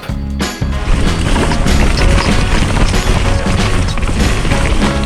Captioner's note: dirt crunching